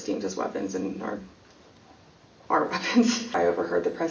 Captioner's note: chuckles